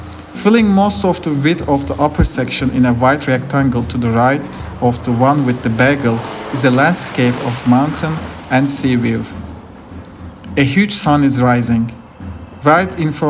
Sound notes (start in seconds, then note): 12.7 uplifting sun sound